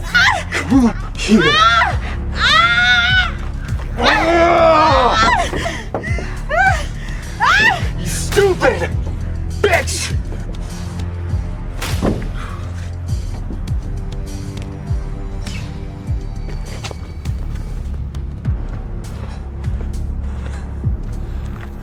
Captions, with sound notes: Come here! (woman screams) (Patrick shouts) (woman screams) (woman wails) You stupid bitch! (tense music) (Patrick pants)